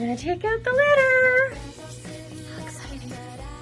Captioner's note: whisper